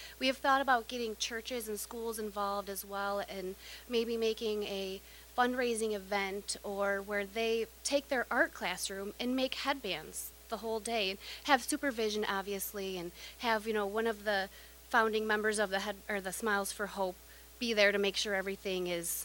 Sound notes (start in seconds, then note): none